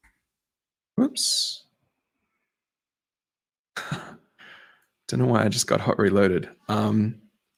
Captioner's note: chuckles